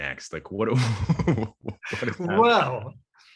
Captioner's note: laughs